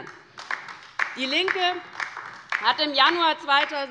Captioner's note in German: Beifall bei der LINKEN